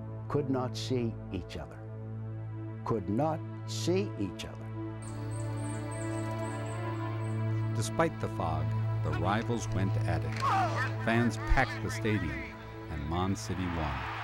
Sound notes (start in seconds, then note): 5.4 ominous music continues; 10.1 group chattering; 13.4 crowd cheers